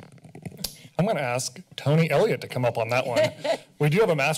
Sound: laughter

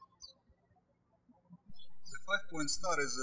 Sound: birds chirping

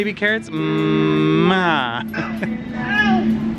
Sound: kissing sound

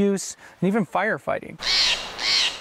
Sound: bird cawing

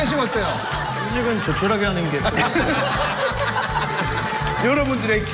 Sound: laugh

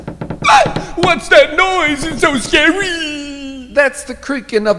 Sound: screams

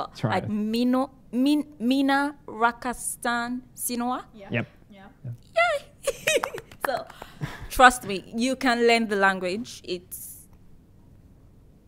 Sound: finnish - 'I love you'

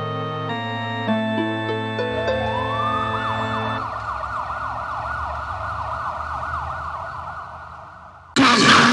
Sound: police Sirens

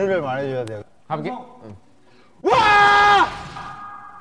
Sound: shout?

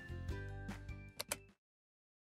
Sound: mouse click

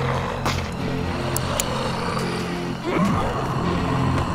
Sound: flashlight clicks; zombies growling

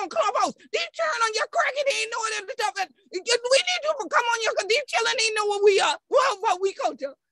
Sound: speaking Gullah/Geechee

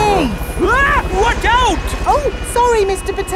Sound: screams

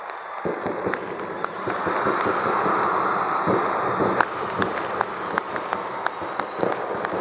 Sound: all cheering; drum playing

